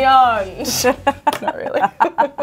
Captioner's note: laugh